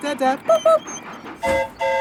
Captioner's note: mimics train whistle; train whistle toots